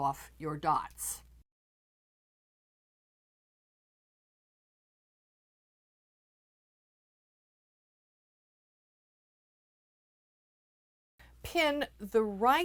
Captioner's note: no Sound Present